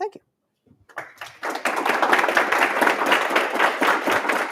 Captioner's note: applause